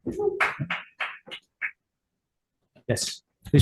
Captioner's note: constituent clapping